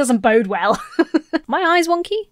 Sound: laughs

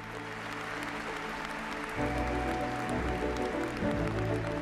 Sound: audience clapping

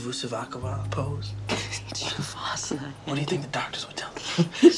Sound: laughs

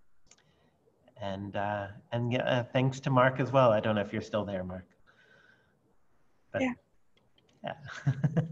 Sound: laughter

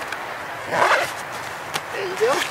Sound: sound of zipper

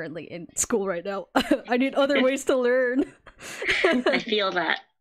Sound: laughs

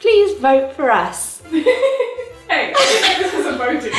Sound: laughing

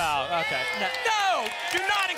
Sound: applause

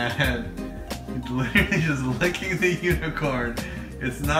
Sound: laughs

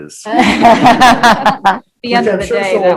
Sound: laughing

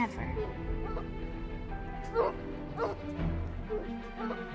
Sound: hounds barking

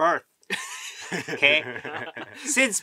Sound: laughing

